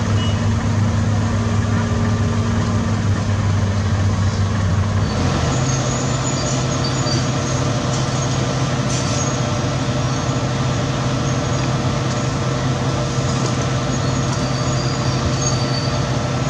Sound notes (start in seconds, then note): 5.6 excavator Engine Idle Sound